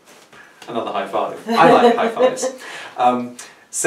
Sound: laughs in the background

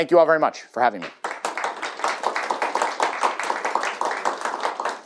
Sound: applause

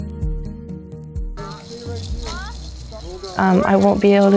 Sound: soccer ball rolls

